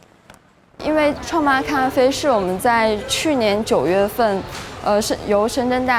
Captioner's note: speaker speaking in foreign language